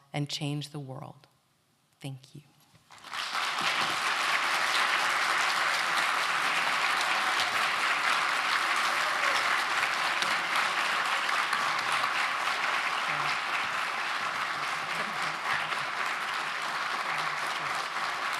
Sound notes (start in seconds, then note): 2.8 applause